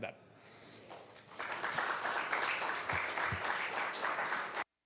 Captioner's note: applause